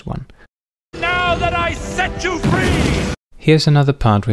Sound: blast

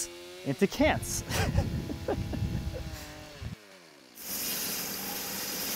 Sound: laughs; machine sawing

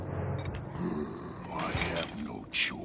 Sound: grunting

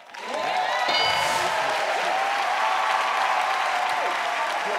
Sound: cheering; dinging

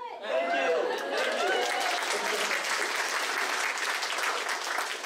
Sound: voiceover; audience applauds

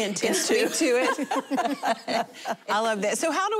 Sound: laughing

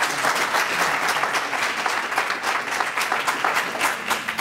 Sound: applause

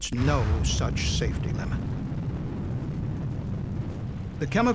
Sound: sound of explosion

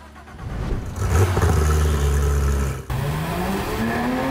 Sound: car engine roaring

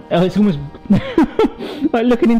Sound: chuckling

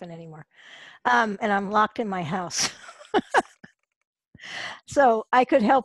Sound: laughs

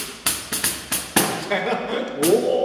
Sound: laugh

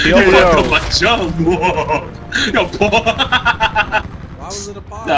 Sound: laughing

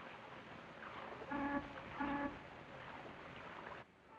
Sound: car honking

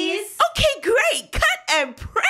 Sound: voiceover

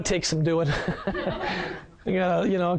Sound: laughs

